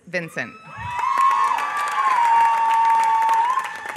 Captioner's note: applause